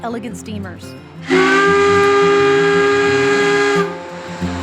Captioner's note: steam whistle blows